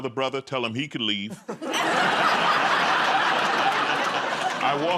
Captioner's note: laughter